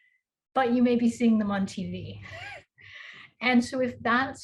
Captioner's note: chuckles